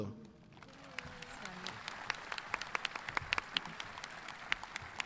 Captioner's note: audience clapping